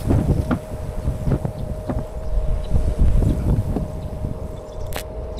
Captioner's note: wind blowing